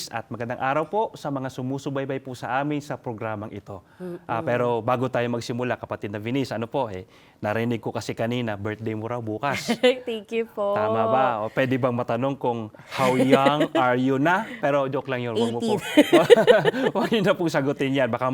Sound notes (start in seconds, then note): 9.5 laughs